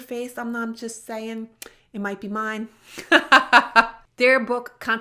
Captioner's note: laughs